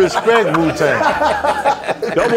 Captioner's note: laughing